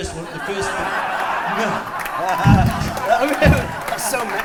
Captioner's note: laughter